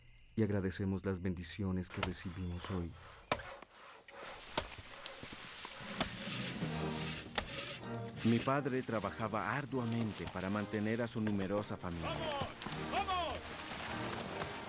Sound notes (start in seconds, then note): 2.9 chopping